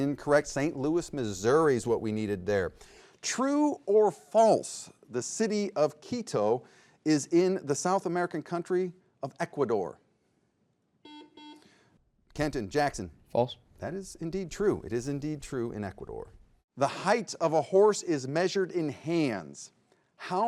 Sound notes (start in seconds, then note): 11.0 buzzer beeps